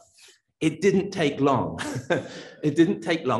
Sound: laughs

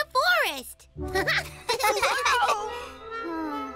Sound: both chuckle

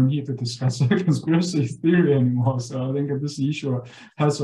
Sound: laughing

